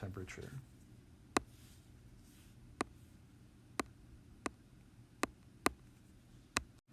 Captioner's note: tapping sound